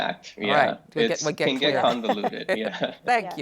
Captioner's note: chuckles